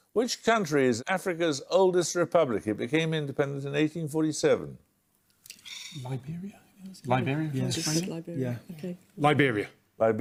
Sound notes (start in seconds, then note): 5.6 muttering